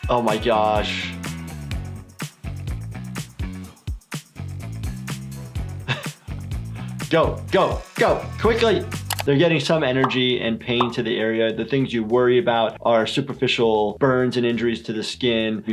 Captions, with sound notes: Oh my gosh! (upbeat music) (Doctor laughs) Go, go, go! Quickly! They're getting some energy and pain to the area. The things you worry about are superficial burns and injuries to the skin.